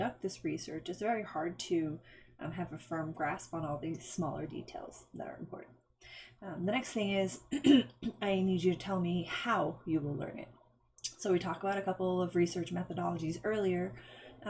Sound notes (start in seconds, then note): 7.6 clearing throat